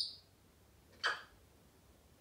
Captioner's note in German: smooch